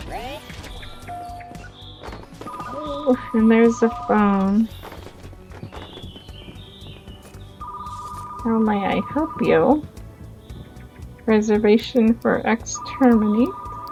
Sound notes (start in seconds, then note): 3.3 phone rings